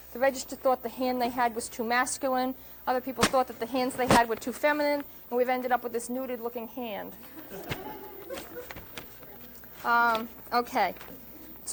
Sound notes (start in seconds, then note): 7.2 laughter